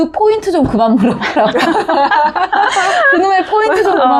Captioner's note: laughter